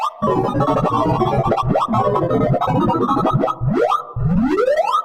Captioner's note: distorted electronic beeping